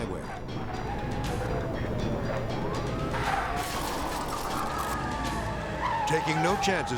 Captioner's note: car skidding; dramatic music